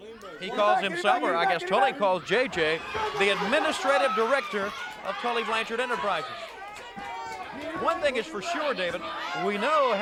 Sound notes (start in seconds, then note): 3.6 crowd chatter